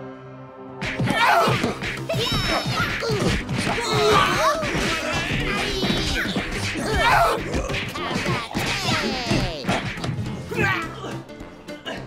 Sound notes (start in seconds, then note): 2.7 karate chopping sounds